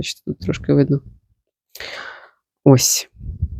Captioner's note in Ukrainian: сопіння